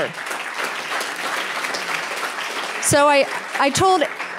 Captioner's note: applause